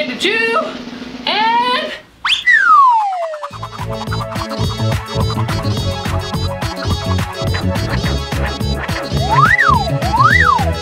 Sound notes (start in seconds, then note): 2.2 air whooshes; 3.0 upbeat music